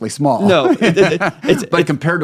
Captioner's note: laughing